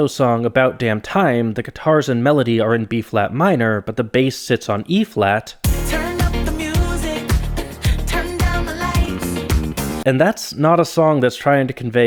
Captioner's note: bang